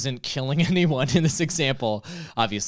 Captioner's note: laughs